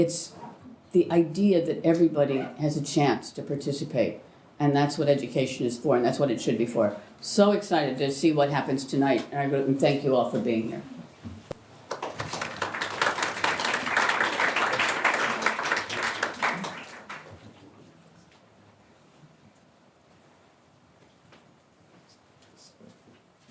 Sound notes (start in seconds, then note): 14.6 applause